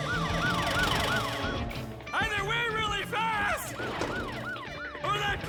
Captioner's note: panting